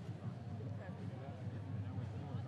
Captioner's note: none